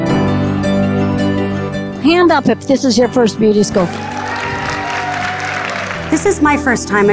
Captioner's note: applause